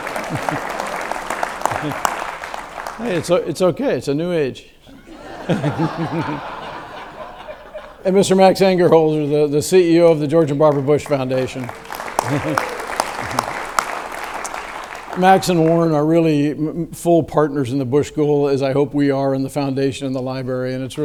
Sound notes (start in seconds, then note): 0.0 audience claps; 5.4 audience laughs; 12.1 audience claps